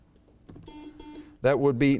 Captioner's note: buzzer beeps